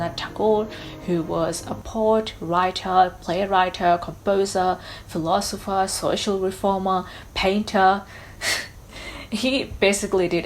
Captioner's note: sighs